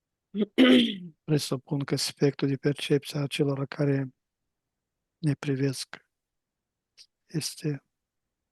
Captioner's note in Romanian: voce dreasă